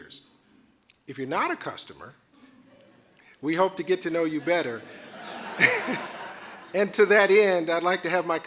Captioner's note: audience laughing